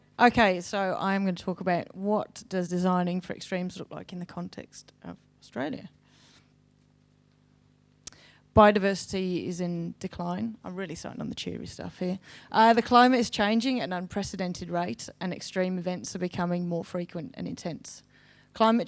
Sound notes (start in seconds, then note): none